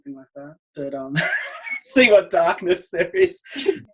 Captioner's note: laughing